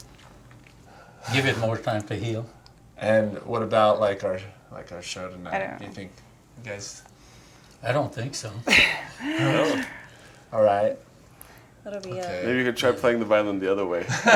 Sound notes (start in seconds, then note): 8.7 light laugh